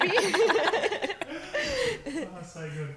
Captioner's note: laughing